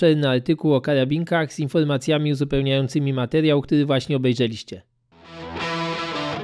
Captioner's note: only in Polish